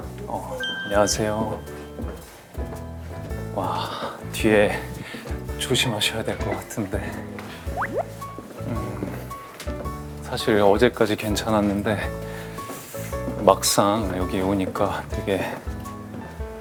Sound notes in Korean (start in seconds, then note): 12.2 심호흡